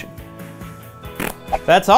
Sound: fart noise

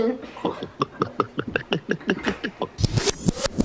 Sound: gulping

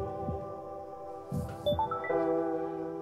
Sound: notification

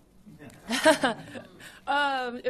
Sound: laughs

